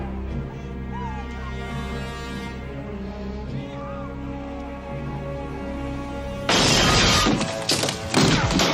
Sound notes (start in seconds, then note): 6.3 explosion